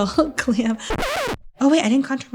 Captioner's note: record scratching